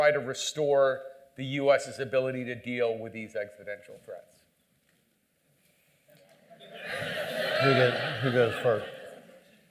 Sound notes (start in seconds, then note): 6.4 laughter